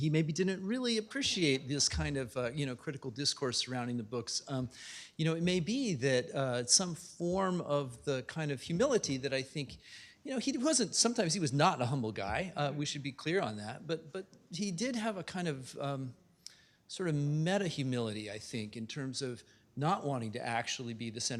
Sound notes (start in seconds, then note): none